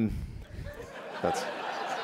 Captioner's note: laughter